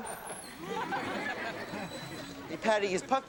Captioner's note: audience laughs